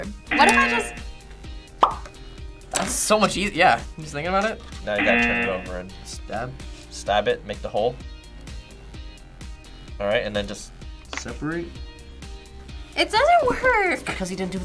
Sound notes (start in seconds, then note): 0.3 buzzer rings; 4.9 buzzer rings